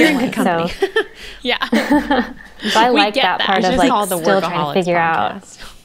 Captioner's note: they laugh and speak over each other